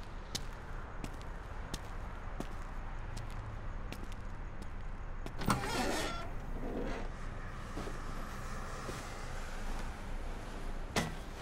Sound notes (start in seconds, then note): 0.9 footsteps; 5.4 trunk creaks open